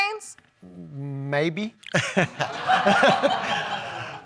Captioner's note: laughing